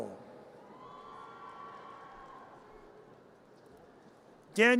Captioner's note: audience cheers